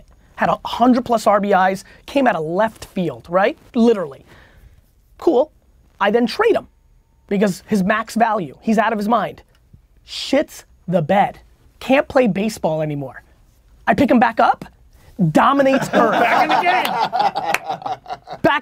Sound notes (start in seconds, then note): 15.6 group laughter